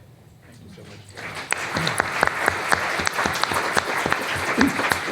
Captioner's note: applause